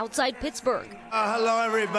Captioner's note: chants